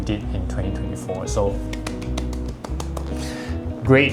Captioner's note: clapping